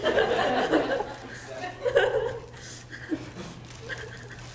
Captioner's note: laughter